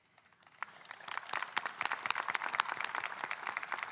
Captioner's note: audience applauding